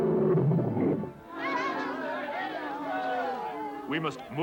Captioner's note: roaring; onlookers jeering